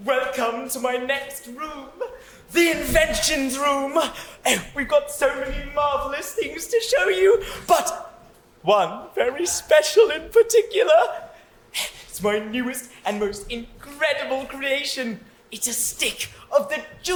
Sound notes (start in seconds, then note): none